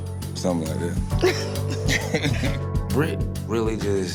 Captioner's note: laughing